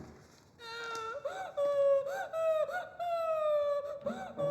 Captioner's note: woman crying